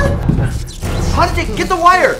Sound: shock noises

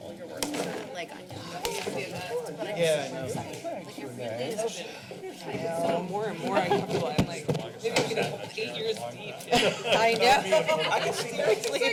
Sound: background conversations

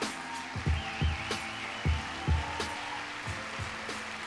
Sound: applause

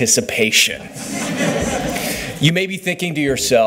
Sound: laughter

